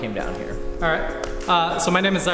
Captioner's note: clap